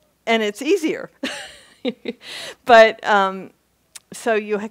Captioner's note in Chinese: 她笑